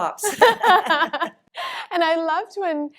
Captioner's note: both laugh